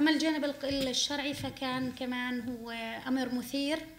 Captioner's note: speaking arabic